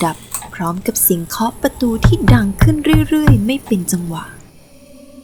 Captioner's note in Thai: เสียงเคาะประตู